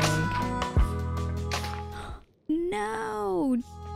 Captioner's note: gasp